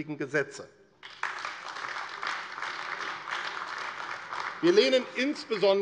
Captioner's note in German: Beifall AfD